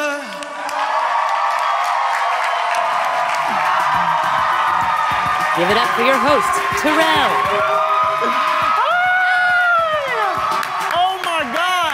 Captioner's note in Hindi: ताली